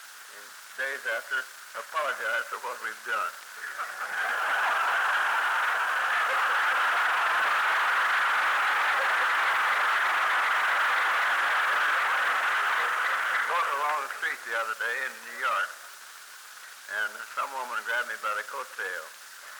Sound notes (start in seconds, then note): 3.5 laughter, applause